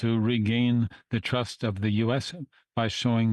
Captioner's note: speaking French